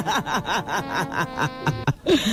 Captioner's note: laughing